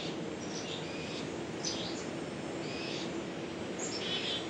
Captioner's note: birds chirping